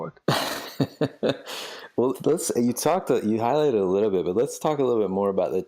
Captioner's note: laughs